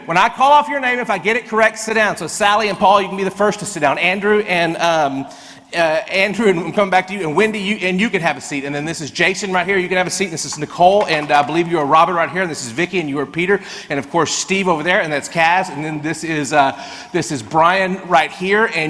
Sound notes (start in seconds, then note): none